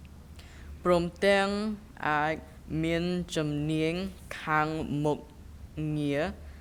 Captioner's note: speaking in a foreign language